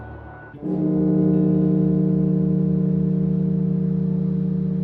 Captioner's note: bell tolling